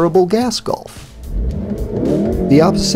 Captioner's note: engine rev